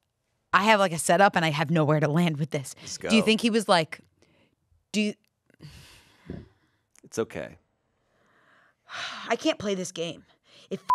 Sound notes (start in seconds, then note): 8.8 sighs